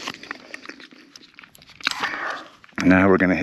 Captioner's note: biker chomping